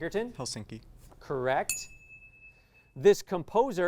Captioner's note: ding